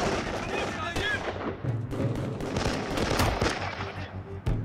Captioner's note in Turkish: Silah sesleri